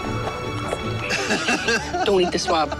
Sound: everyone laughs

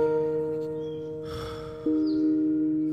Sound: sigh

